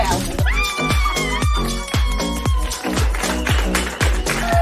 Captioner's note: cheering